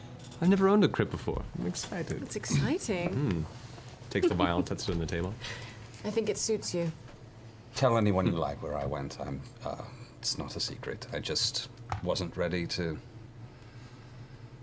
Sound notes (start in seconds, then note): 4.1 laughs